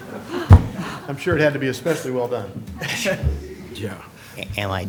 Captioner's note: laughter